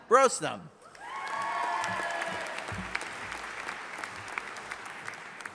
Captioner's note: audience applauding